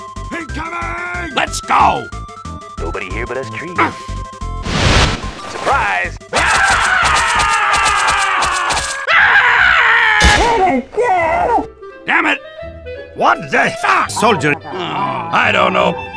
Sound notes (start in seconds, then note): 6.3 everyone screaming in pain